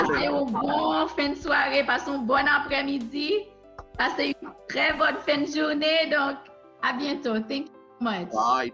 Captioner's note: speaking in Hatian Creole